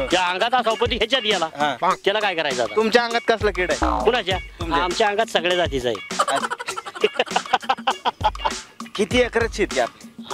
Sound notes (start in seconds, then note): 6.1 laughter